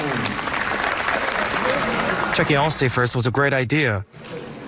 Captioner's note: applause